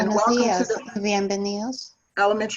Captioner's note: speaking in foreign language